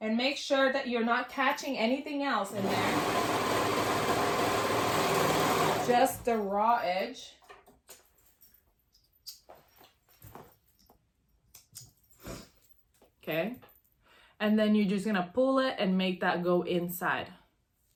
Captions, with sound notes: And make sure that you're not catching anything else in there. (machine humming) Just the raw edge. Okay, and then you're just gonna pull it and make that go inside.